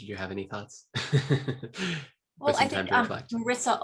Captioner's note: laughs